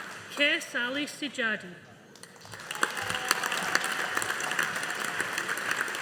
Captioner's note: audience applauding